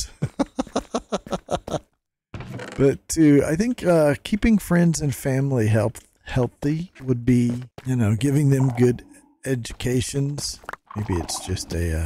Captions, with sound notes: (laughs) But too, I think keeping friends and family healthy would be- giving them good educations. Maybe it's just a...